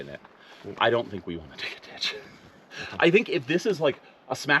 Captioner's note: titters